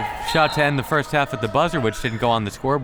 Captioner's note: whistle